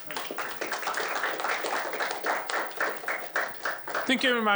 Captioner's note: applause